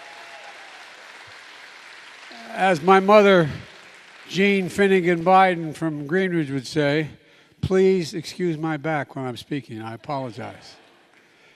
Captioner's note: applause